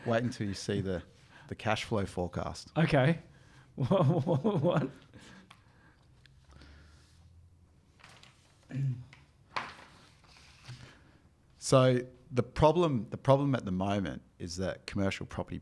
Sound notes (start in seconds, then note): 3.8 laughing; 6.4 paper rustling; 8.7 throat clearing; 9.5 paper rustling